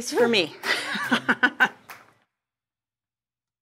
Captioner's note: laughing